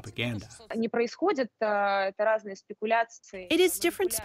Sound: through translator

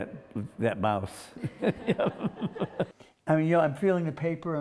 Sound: laughs

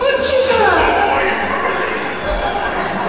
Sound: coarse Voice

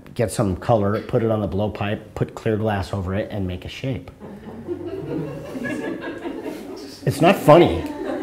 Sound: audience laughter

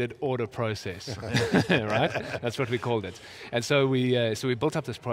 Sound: laughing

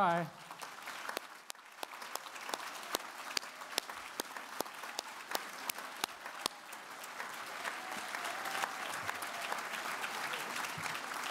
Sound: applause

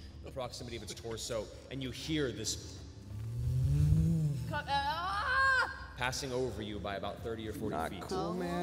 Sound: zooming

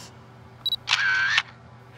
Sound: camera shutter

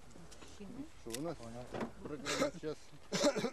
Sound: russian speech

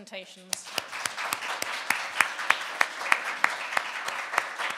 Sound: audience applauding

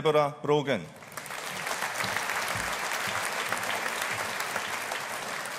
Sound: audience applauding

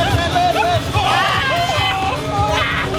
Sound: screaming from coldness

